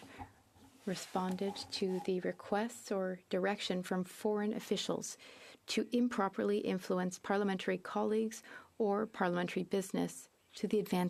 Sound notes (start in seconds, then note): 1.1 speaking French